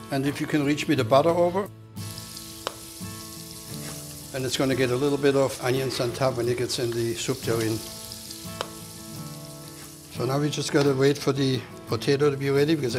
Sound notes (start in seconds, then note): 2.1 pan sizzling